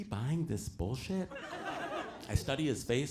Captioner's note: audience laughs